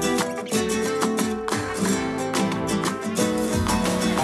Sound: applause

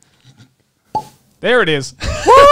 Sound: wine cork pops

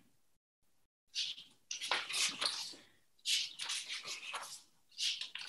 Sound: papers rustling

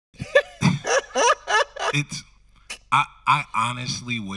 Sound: host laughing

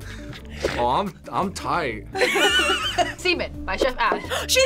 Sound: both laugh; both laugh

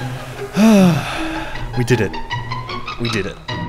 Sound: exhale

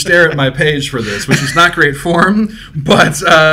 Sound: both laughing

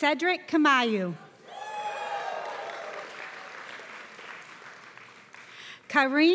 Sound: applause

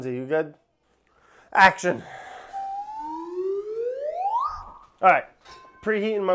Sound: whistle blowing

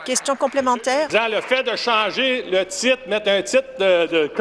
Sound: applause

